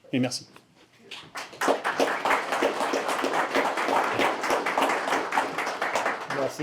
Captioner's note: applause